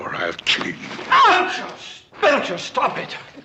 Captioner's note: Beatrice yells in pain